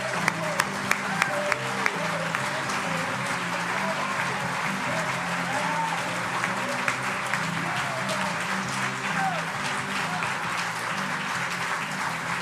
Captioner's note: applause